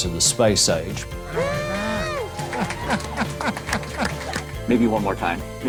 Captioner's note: cheering and applause